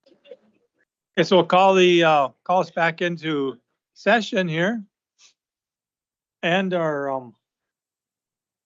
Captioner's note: snorts